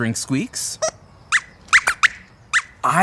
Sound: squeaks squeaks

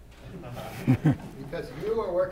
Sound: laughter

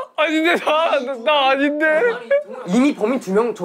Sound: unsure of himself

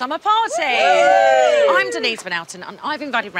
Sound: cheering

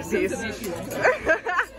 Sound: laughter

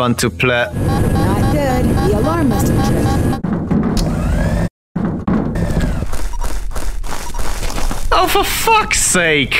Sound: alarm

